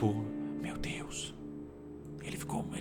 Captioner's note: whisper